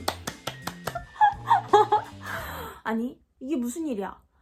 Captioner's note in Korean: 호흡 곤란